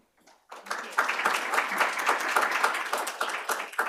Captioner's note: applause